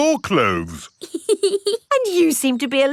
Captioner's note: laughs